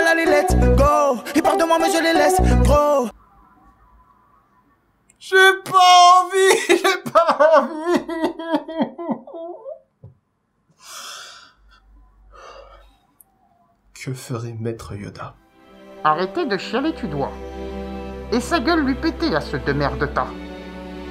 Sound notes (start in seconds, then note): 6.2 crying